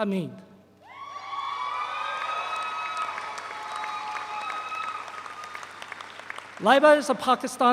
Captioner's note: audience cheers; audience applauds